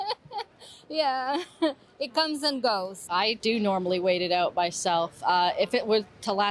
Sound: laughter

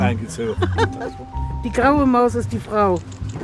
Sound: laugh

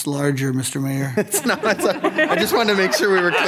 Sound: laughing

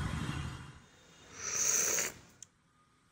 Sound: slurping Tea

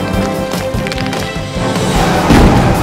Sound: tires screeching; boulder crashing

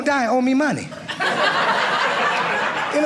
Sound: audience laughing

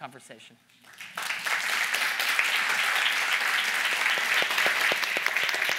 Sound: audience applauding

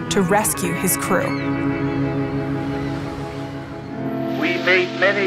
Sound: seagulls calling

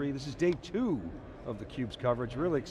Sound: none

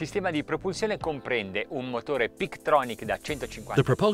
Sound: speaking in foreign language

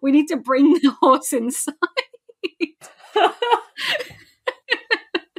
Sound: laughing; laughs

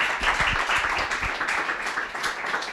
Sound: applause

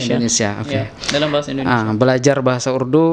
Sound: in Indonesia Language

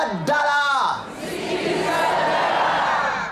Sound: audience repeats in local language

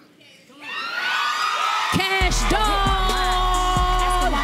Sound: audience cheers

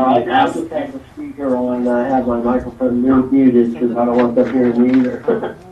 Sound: man speaking in the background

